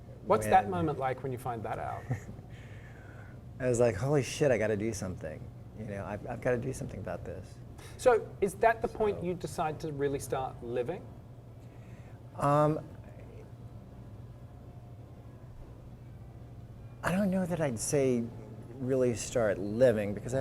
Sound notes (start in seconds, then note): 1.8 laugh